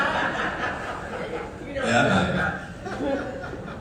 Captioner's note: audience laughing